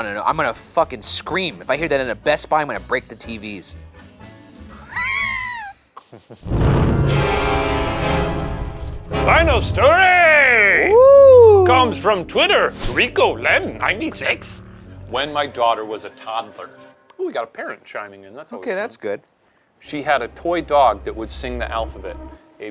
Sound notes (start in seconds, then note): 5.9 laughs; 6.4 smoke whooshing; 6.5 upbeat intense music; 9.8 cheers